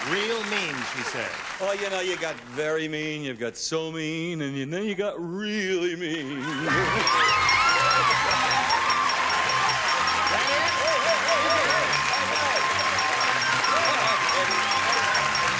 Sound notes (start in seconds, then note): 6.8 applause, theme music